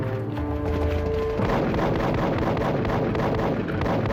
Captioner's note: suspenseful music; guns firing